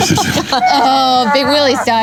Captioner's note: laughing